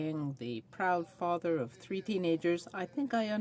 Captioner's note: speaking French